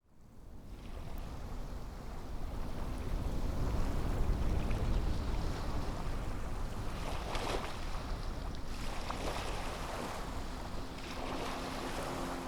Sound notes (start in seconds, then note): 1.4 water lapping